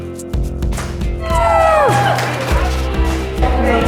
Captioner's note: cheering